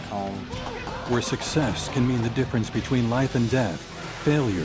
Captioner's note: voiceover